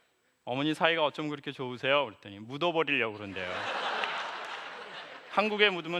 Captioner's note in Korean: 웃음